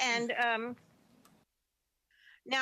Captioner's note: speaking French